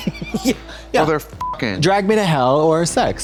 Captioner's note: beep